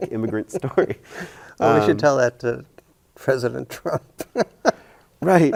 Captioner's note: chuckles